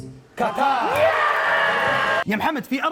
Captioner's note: cheering